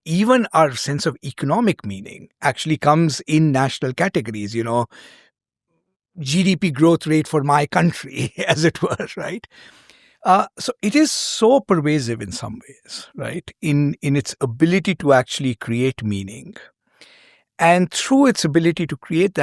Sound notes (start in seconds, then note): 8.2 chuckles